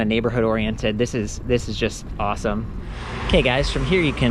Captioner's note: air whooshing